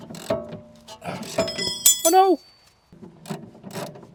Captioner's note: cling